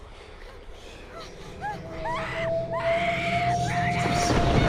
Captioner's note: screaming